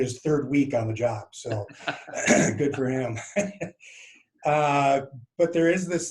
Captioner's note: laughs